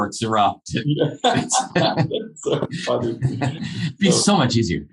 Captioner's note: laughing